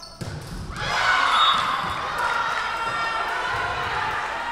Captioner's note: whistle blowing